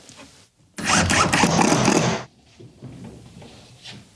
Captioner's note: electric drill sound